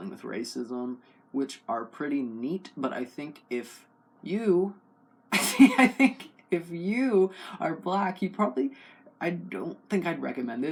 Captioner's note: laugh